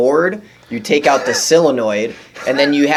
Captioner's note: laughing